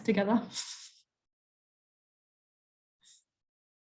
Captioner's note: chuckles